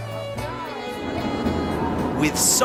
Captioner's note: people laughing and screaming; coaster whooshing